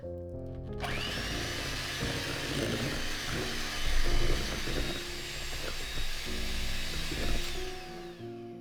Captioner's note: mixer whirring enthusiasticly